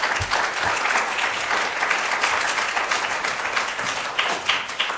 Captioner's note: audience applauds